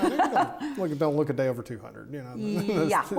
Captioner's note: laughs